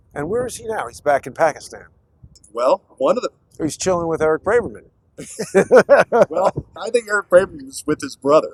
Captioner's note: laughter